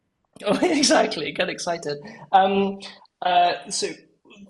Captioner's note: laugh